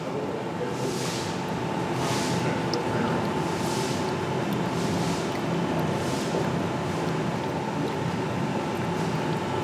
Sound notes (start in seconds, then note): 1.4 machine whirring, soft splashing